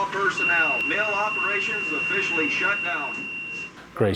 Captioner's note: loudspeaker